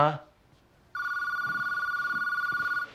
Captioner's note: telephone rings